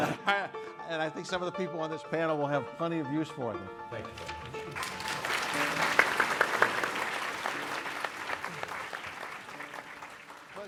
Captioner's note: applause